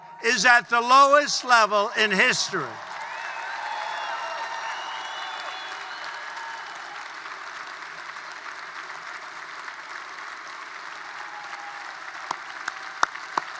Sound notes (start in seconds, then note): 1.4 applause